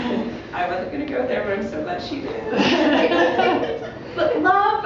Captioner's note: laughter